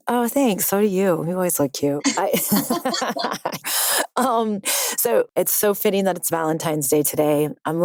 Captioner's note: laugh